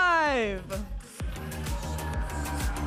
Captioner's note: audience applauding and cheering